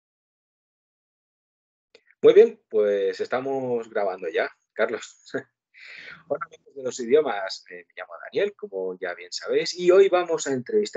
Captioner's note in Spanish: ríe